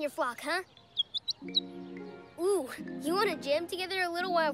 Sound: chirps

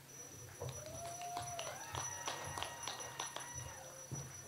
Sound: audience applauds

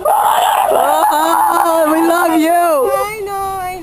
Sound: sounds of loving-crowd

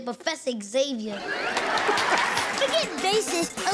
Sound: laughing

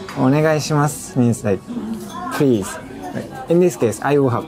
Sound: speaking in Japanese

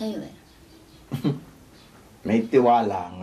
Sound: Fidel chuckles

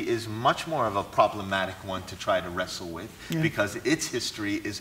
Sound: none

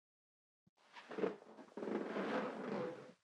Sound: bed squeaks

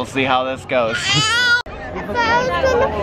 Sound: wails

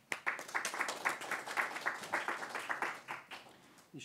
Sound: applause

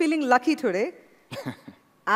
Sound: laughter

